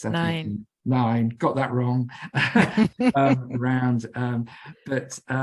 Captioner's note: both laugh